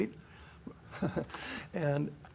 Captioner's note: chuckles